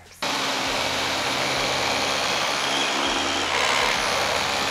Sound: vacuum whirling

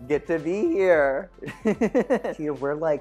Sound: laughs

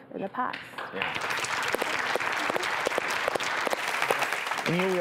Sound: audience claps

